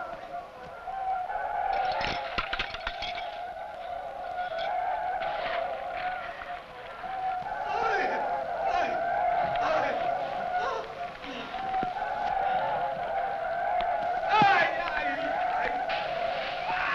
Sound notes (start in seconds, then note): 2.2 belt rattling; 7.6 men shouting; 14.2 men shouting